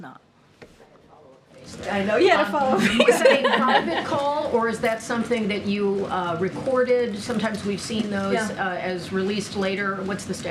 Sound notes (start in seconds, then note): 2.8 laughs